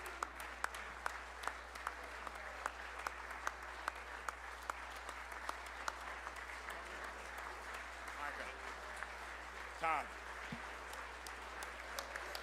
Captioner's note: applause